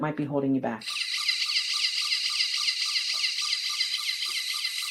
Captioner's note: machine whirring